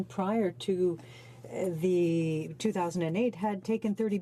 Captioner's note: speaking French